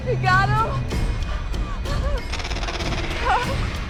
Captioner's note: animal chittering